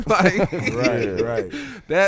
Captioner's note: laughing